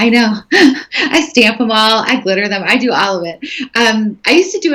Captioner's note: laughing